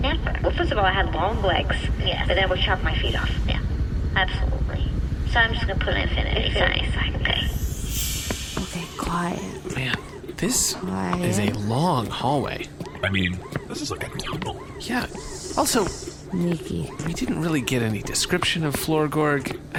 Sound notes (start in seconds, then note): 7.3 transition sound; 8.6 quietly